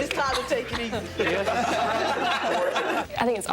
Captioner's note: people laughing